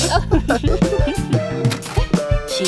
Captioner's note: Candle and Silver Spoon laugh